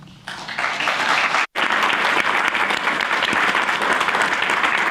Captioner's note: applause